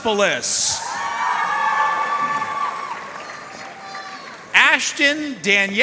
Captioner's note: audience cheering and applauding